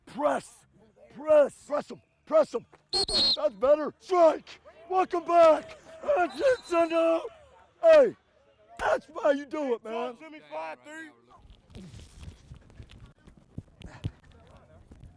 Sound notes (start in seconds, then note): 2.9 whistle blowing; 6.4 yelling